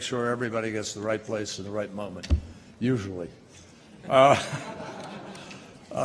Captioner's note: laughter